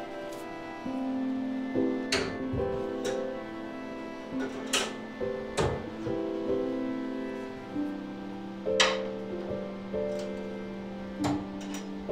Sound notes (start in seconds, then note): 2.5 metal clanking; 8.7 metal clanking